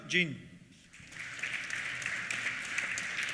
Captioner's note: applause